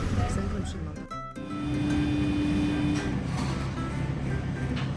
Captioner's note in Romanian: sunet de mașină industrială